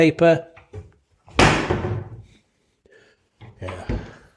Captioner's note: door clunking shut